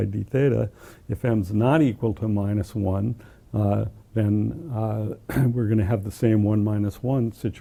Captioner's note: cough